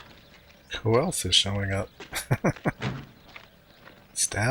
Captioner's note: chuckling